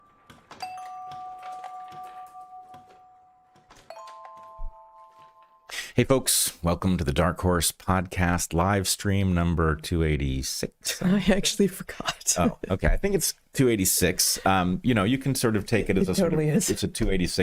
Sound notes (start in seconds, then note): 2.9 bell Ringing